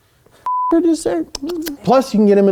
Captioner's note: beeps